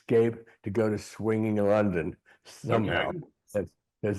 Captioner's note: chuckling